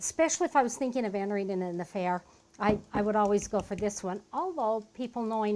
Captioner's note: tapping